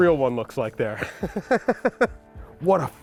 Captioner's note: laughs